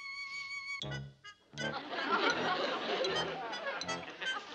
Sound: audience laughs

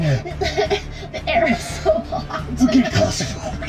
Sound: laughing

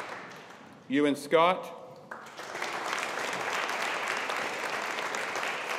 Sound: audience applauding

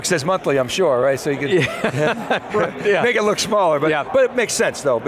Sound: laughs

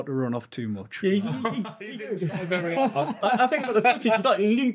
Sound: laughing

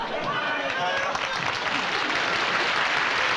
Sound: applause

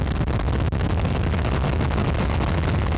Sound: none

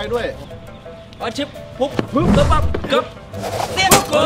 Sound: cheering

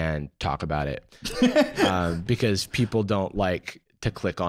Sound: laughing

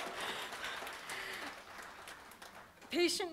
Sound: applause

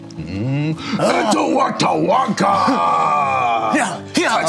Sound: grunts excitedly

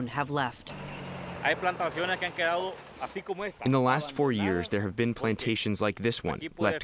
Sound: through translator

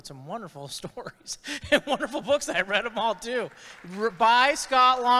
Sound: chuckles

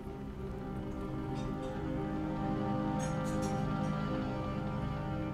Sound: gentle ominous music continues; dishware clattering

